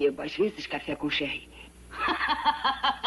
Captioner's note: laughing